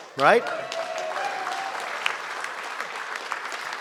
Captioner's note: applause